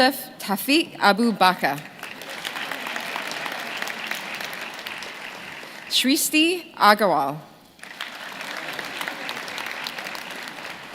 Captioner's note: names being called